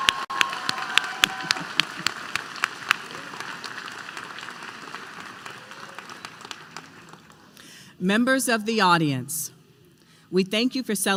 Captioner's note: applause